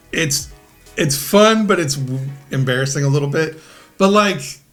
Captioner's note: none